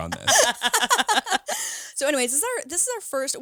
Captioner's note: all laughing